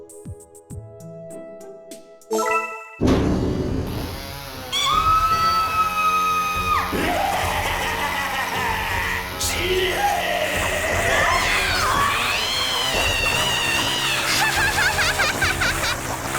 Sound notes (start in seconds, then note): 5.5 terrified scream; 7.8 maniacal laughter; 11.6 dying wails; 15.4 laugh